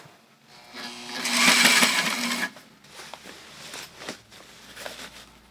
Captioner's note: sewing machine raving